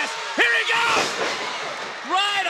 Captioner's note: floor banging